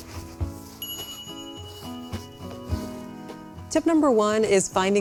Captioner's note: bell dings